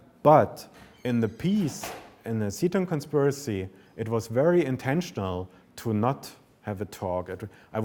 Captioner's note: none